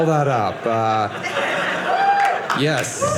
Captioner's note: audience laughing